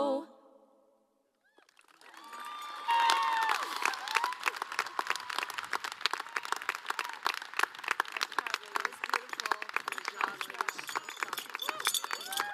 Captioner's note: applause